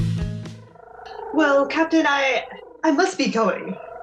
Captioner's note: tribbles coo-ing